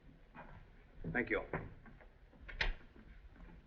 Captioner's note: door Closes